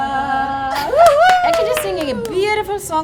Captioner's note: clapping